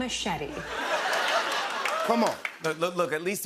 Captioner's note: laughter